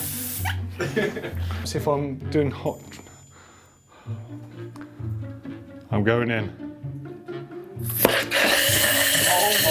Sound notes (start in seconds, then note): 0.8 laughing; 2.8 ping; 7.8 pop